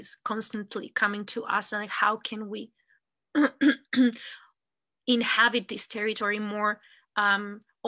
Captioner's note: clears throat